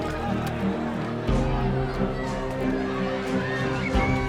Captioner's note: crowd clamoring